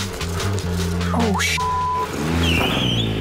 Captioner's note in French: biiiip